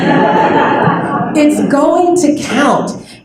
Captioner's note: laughter